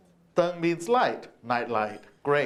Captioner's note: speaks Chinese